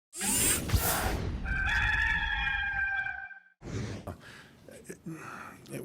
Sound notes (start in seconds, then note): 1.4 rooster crowing